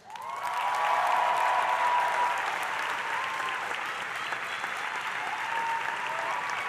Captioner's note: audience applauding; audience cheering